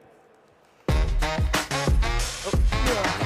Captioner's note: applause